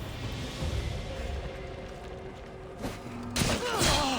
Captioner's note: none